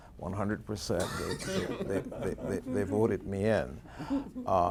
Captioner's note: laughing